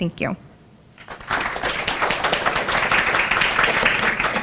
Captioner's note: applause